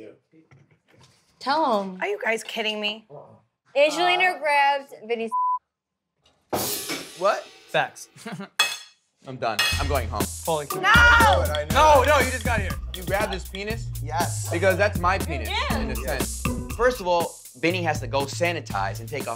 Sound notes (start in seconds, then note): 5.3 beep; 6.0 chair crashing